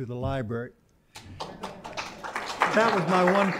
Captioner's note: applause